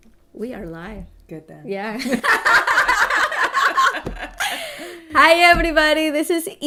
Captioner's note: laughter